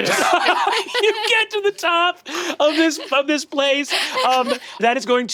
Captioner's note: laughs